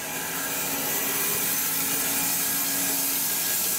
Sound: saw blade humming

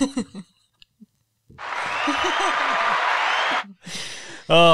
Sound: cheering sound effect

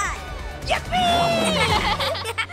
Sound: laughing

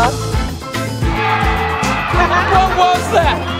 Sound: crowd cheering

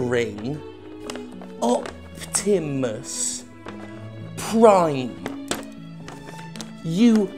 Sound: pen jab, paper crinkles

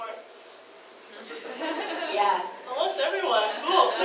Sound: audience laughs

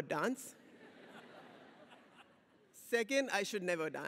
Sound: audience laughs

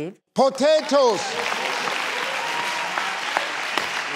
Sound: clapping

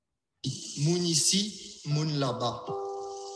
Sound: speaking creole

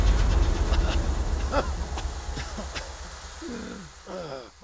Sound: Batman coughs

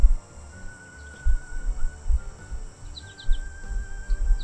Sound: birds tweeting

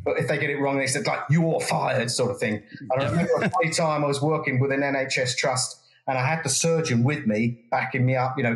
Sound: laugh

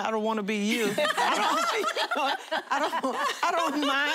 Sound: laughter

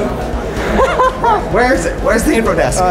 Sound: laughing

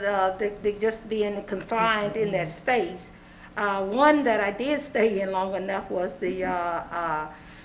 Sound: laughter

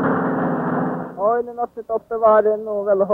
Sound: Swedish spoken audio

